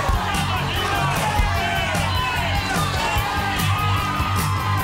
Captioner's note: spectators cheer